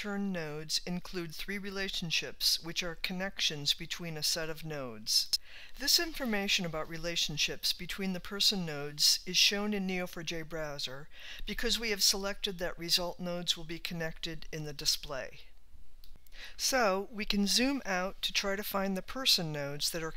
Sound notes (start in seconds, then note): 16.0 clicks